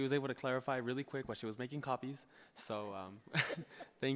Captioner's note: laughs